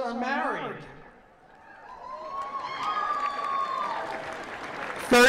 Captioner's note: applause